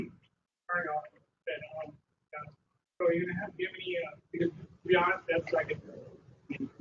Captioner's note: man's voice garbled over phone